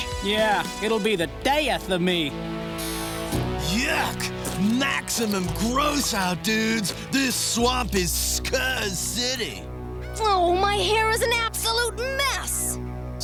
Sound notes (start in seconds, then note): none